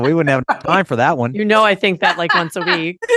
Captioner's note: laughs